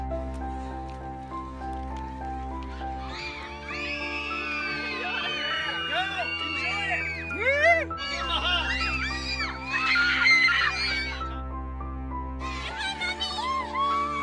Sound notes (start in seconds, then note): 0.3 inspirational music swells; 2.4 crowd cheering